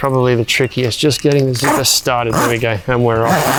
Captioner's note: zipper whooshes; zipper wooshes